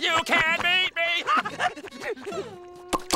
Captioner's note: panting